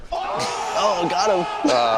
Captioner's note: people shouting